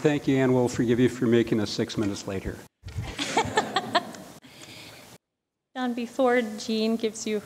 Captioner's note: laughter